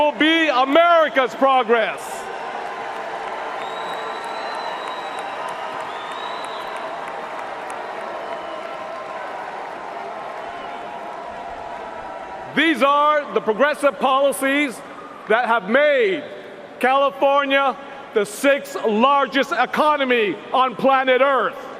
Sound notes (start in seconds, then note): 15.5 cheers and applause